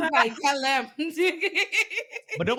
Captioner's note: laughing